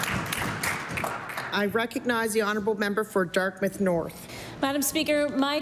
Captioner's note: applause